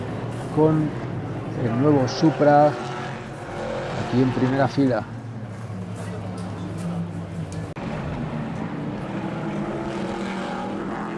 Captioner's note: motors